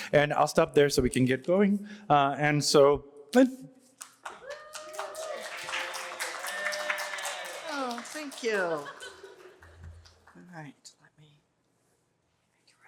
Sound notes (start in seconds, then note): 4.0 applause